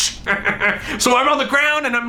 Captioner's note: evil laugh